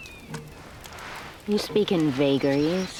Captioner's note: shoes clank